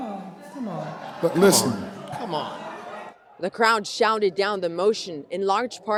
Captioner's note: loud boos